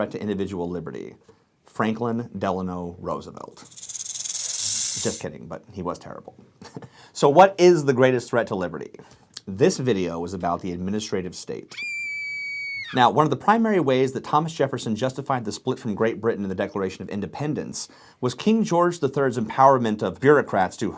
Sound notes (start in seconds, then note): 3.6 snake tail rattling; 11.7 high-pitched screaming